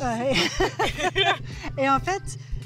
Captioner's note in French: rires